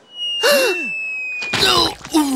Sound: groaning; gasping

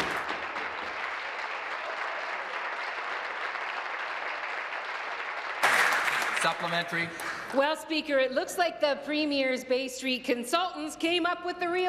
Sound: applause

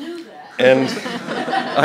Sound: laughter

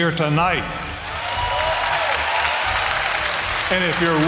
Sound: applause

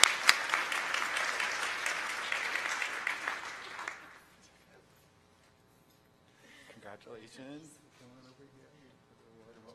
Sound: applause

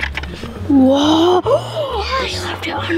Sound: gasp

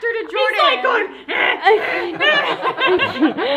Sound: grunts; everyone laughs

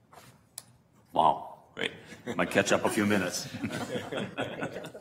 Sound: laughter

